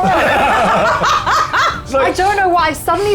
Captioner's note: players laughing